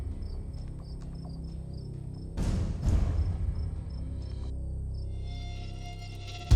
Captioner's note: crickets chirp; eerie music continues